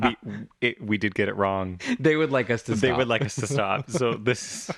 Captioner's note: laugh